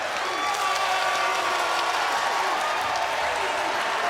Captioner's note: crowd cheers